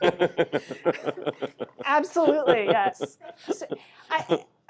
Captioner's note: laughter